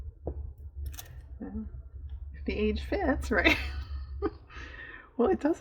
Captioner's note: laughs